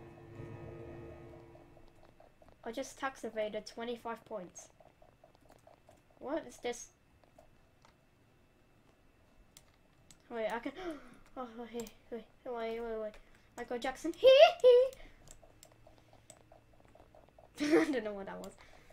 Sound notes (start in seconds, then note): 10.8 gasp; 17.5 laugh